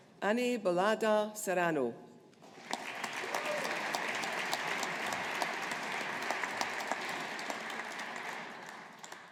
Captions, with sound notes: Ane Bollada Serrano. (AUDIENCE APPLAUDING)